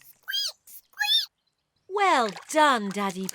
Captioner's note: laughs; squeaks